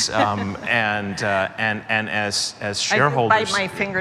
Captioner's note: laughter